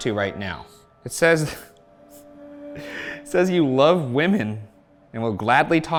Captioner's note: chuckles